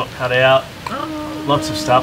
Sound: groans

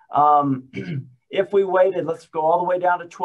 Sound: clears throat

